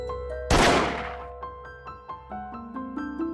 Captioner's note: bam